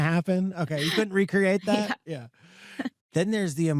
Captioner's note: chuckles